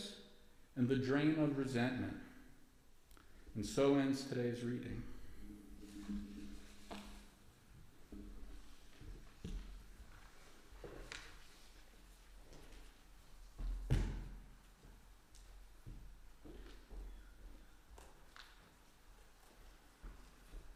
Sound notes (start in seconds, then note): 5.8 no speech